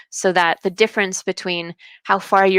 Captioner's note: none